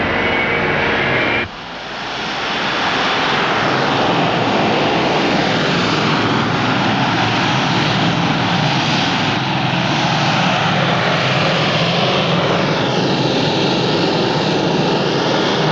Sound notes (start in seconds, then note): none